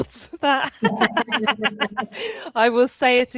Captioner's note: laughing